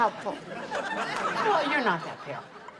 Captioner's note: audience laughs